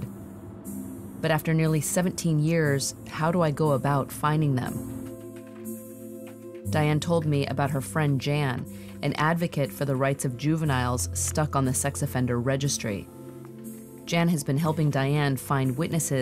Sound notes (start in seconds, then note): 5.1 keyboard clacking